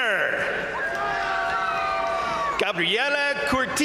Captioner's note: crowd cheering; crowd applauding